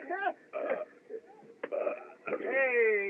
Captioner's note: chuckles; windy Belching